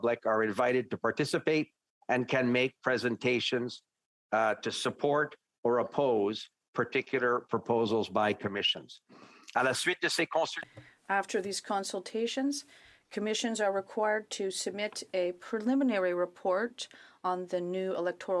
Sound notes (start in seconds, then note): 14.0 speaking French